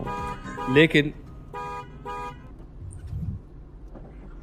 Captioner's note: car honking